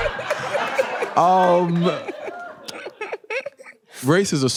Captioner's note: laughing